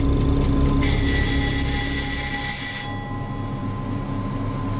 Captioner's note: clock bell rings